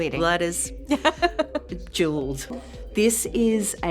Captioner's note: laughing